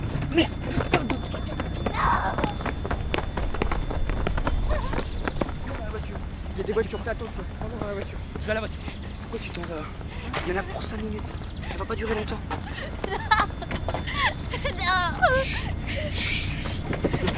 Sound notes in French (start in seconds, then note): 12.3 cris et pleurs